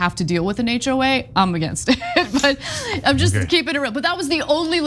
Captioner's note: laugh